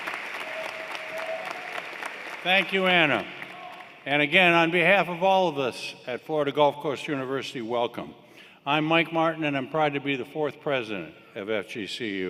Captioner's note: applause